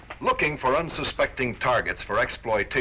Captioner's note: none